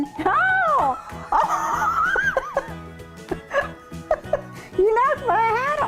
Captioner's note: laughing